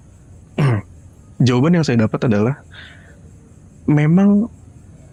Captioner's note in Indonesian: berdehem